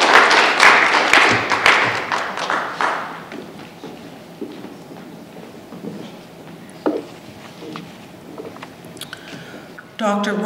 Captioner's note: applause